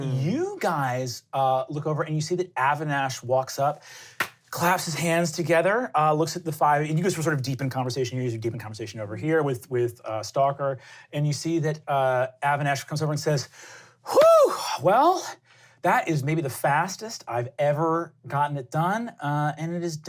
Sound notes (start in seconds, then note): 14.0 sighs in satisfaction